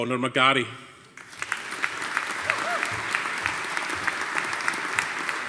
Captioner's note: audience applauding